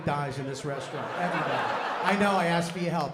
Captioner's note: laughter